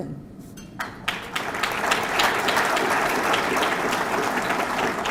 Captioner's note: audience clapping